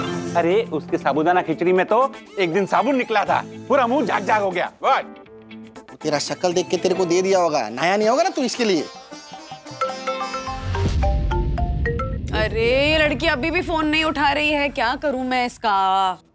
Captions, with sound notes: There was soap in his Sabudana Khichadi. There was foam in my mouth. What? He must have seen your face and served it. You might have not showered. [phone ringing] She is still not answering the call. What should I do now?